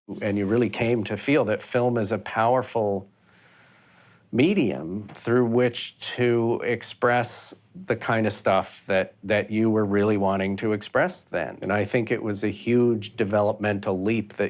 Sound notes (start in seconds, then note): none